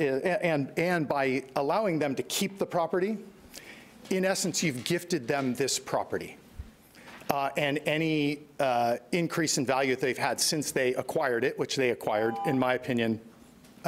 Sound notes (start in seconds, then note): 12.3 timer buzzing